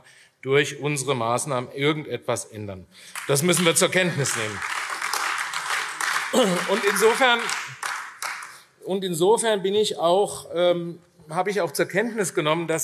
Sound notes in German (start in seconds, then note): 3.1 Beifall AfD